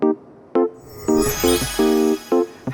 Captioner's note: magic wand swooshes